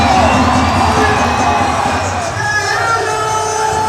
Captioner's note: cheering